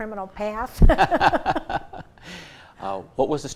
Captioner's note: both laugh